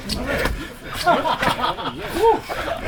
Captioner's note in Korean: 웃음